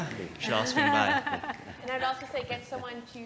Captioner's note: laugh